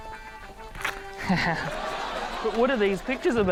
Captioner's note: laughs